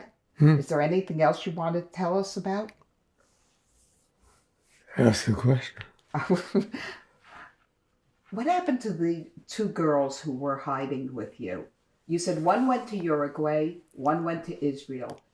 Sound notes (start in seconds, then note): 6.2 laughing